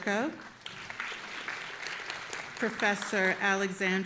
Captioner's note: audience applauding